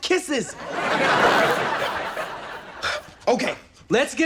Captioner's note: audience laughs